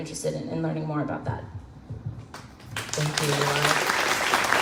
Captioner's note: crowd claps